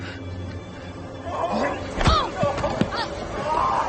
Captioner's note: Lily groans; dramatic music